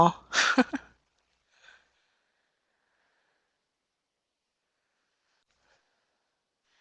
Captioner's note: laughs